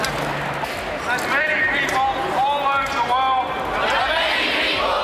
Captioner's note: crowd repeats